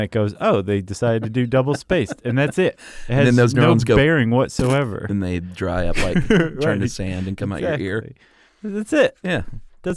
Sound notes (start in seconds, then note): 4.6 splat